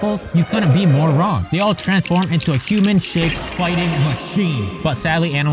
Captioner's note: echoing voice